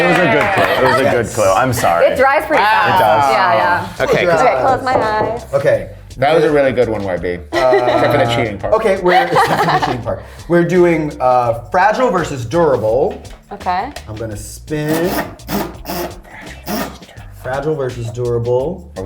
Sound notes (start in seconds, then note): 7.5 laughs; 14.8 wheel clicking